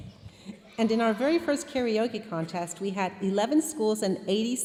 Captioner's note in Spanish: hablando en inglés